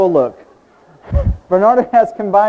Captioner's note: audience laughing